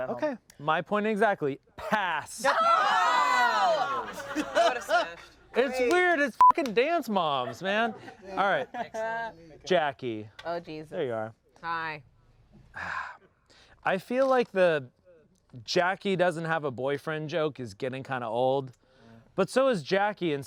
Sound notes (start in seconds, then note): 3.8 everyone laughs; 6.4 beep